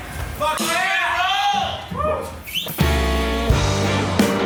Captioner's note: crowd